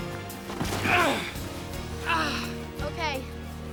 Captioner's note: grunting